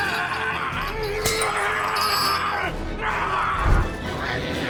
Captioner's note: zombie walter yelling; chains breaking